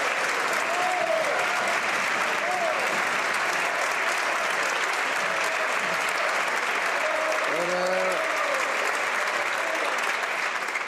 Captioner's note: some Applause